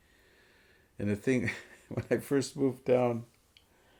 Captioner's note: laughs